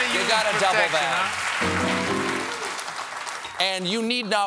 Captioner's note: applause; piano riff